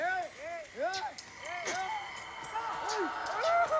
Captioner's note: shouting